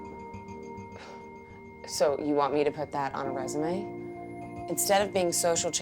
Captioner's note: scoffs